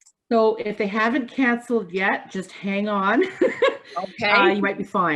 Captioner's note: laughs